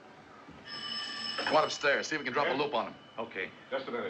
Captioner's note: phone Rings